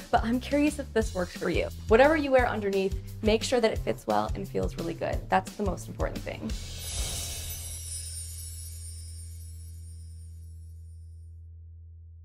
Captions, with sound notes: but I'm curious if this works for you. Whatever you wear underneath, make sure that it fits well and feels really good. That's the most important thing. (chimes tinkling)